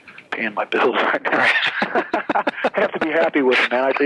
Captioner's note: laughs